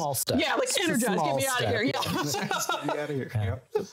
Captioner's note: laughing